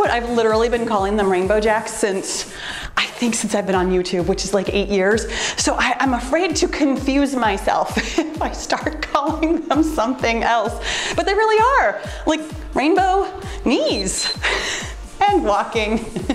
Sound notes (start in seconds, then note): 13.8 timer beeps